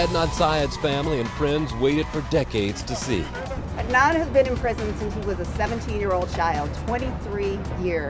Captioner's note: cheering